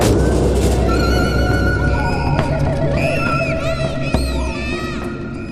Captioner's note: child screams